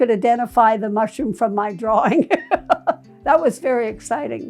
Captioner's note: laughing